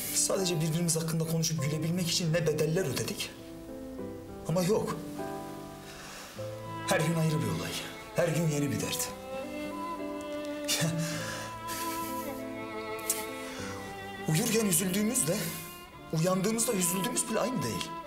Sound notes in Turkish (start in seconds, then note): none